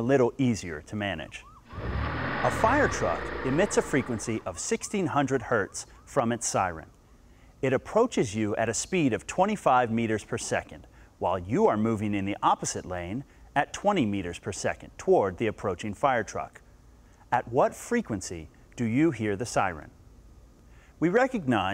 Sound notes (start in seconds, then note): 1.4 siren wailing